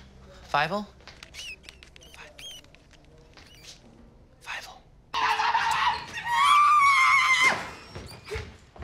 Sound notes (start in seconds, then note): 1.2 mouse squeaks; 4.1 whispered; 5.2 TROY screaming